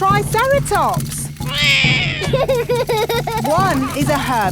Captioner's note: laughs; roars